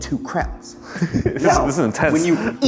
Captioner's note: laughing